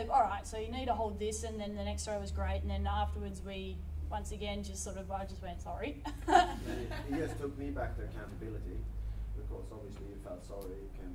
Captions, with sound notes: "All right, so you need to hold this," and then the next throw was great and then afterwards, we once again just sort of, I just went, "Sorry." (LAUGHS) - You just took me back to accountability. Because, obviously, you felt sorry,